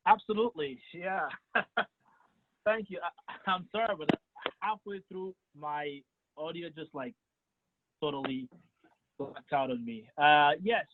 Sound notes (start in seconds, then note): 1.0 chuckles